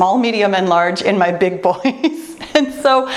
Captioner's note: laughs